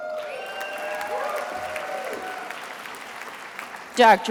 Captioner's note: attendees applauding